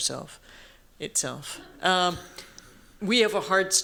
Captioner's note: laughter